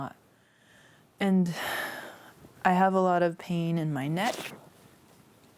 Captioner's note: sighs